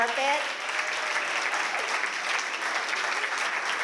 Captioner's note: applause